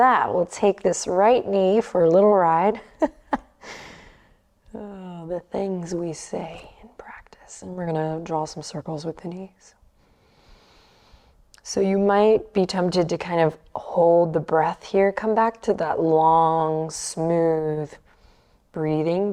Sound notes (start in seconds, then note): 2.9 laughs